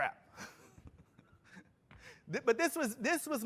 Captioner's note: laughter